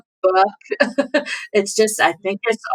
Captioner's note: laughter